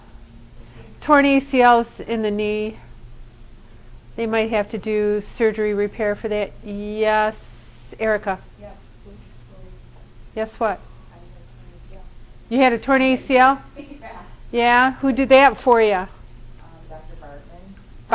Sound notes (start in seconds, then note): 13.7 laughter